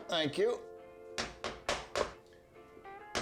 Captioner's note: hammering